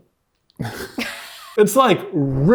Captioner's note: both laughing